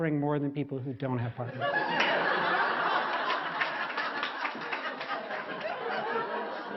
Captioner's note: 笑聲; laughters